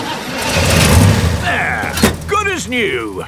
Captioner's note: engine starts